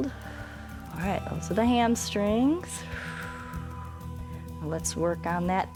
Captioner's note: exhales; exhales